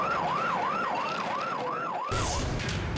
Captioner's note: radio beeps; tense music